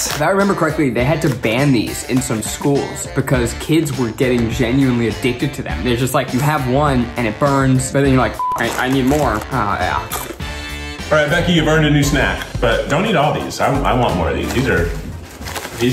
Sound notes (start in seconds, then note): 8.3 beep; 8.4 crunching